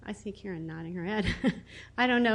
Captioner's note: laughs